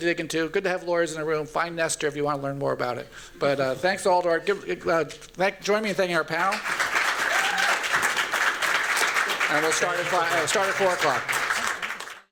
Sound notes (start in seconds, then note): 6.4 applause